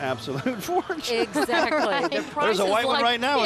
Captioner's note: laughing